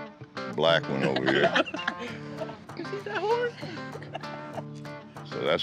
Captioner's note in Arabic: ضحك